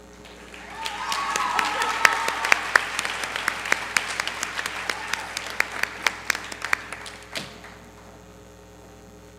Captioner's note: applause